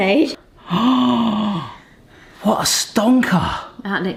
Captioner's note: gasping